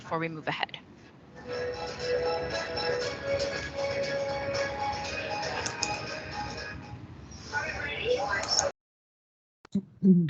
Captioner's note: TV sound playing